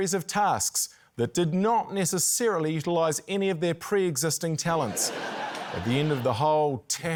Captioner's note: laughter